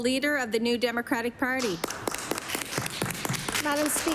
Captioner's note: applause